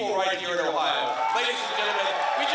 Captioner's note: cheering and applause